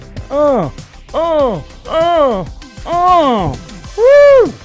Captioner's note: grunting